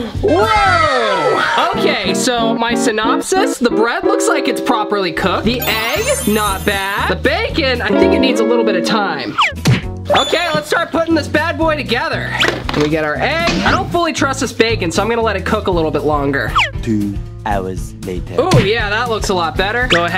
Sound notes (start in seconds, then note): 17.5 recorded Voice